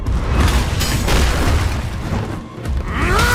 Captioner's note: clangs; thuds; grunts